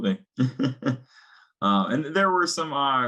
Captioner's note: chuckling